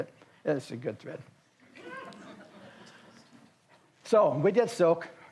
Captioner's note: audience laughs